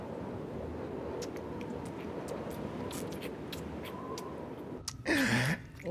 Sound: sucking sound

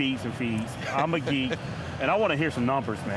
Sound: laughing

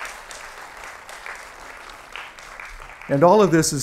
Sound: applause

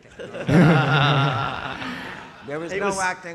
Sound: audience laughing

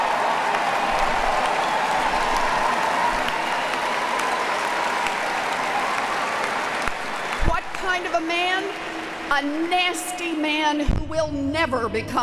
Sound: applause

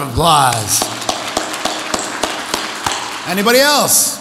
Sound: audience applauds

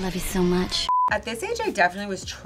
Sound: beeping

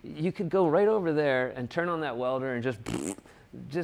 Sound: blows raspberry

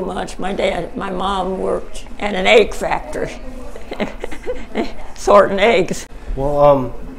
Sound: chuckles; chuckling

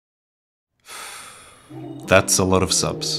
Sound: sigh

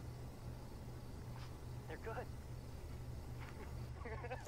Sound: man’s Voice; laughing

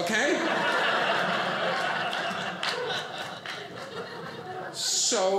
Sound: audience laughing

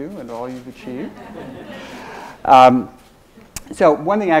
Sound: audience laughs

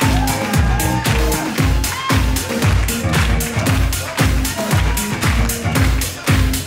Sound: audience claps in time with music

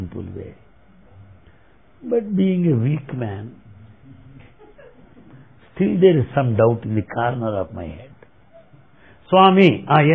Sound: laughter

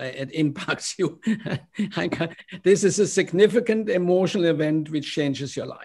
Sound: laughter

